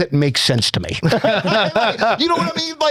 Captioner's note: laughing